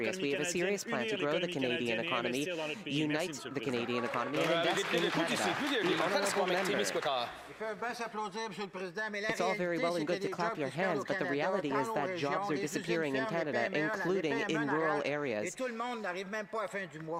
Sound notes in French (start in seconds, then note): 9.3 voix de l'interprète